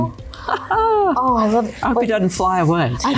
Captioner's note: laughter